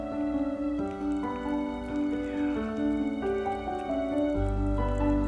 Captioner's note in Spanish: Gato sorbiendo